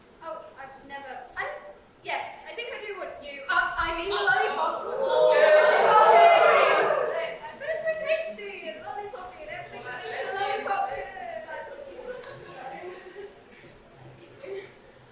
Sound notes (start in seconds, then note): 4.2 audience OOOOOOHH